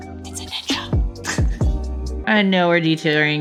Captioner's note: laughs